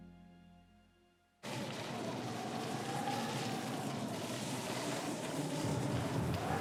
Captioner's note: heavy winds whipping